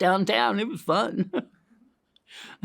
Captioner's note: laughs